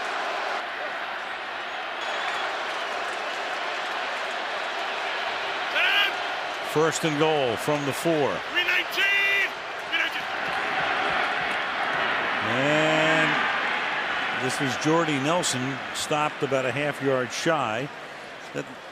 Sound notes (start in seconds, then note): 2.6 cheering